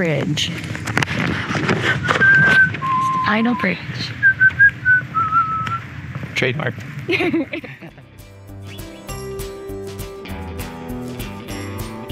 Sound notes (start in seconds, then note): 4.2 whistling